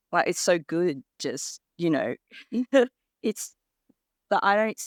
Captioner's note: laughs